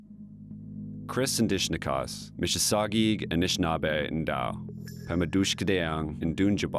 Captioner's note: speaking Indigenous language